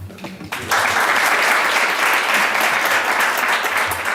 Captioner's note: audience applauding